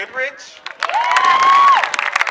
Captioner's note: cheering